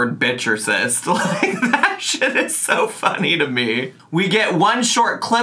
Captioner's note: laughing